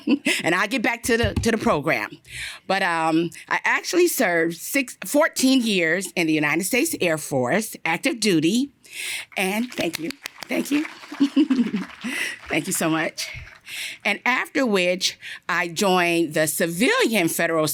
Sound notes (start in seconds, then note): 11.1 laughter